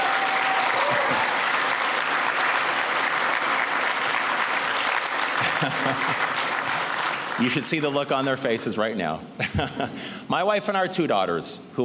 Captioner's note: cheers and applause